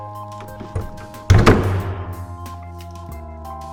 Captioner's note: pop